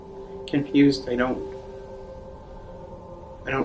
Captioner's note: none